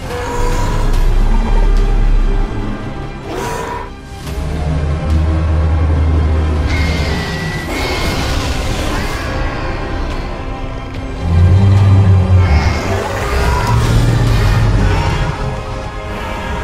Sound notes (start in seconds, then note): 0.0 screeching and roaring sounds of attack